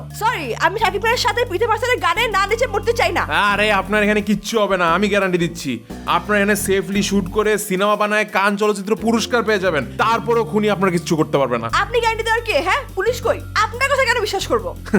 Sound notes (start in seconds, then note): none